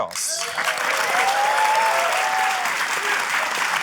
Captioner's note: cheering, applause